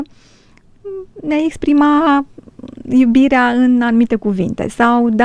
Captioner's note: snore